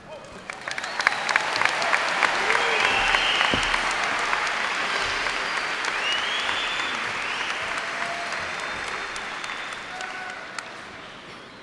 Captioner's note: cheers and applause